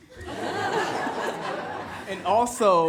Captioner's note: everyone laughs